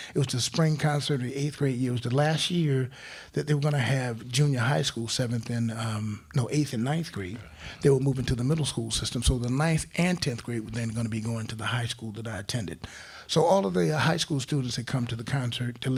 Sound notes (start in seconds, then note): none